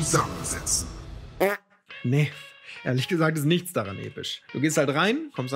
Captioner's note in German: Furz